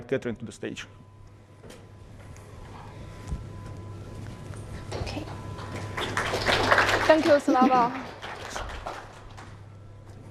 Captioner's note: applause